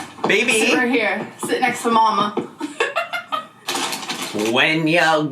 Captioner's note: laughing